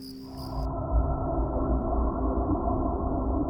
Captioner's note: water warbling